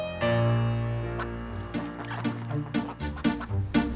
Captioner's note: duck quacks; dramatic upbeat music